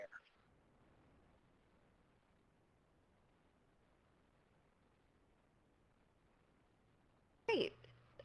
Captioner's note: pause